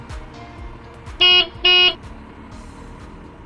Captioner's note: beep-beep noise